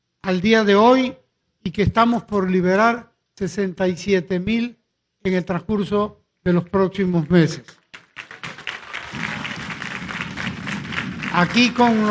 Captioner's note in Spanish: aplausos